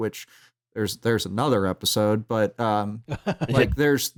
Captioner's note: laughs